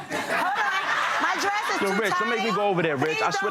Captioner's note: audience laughing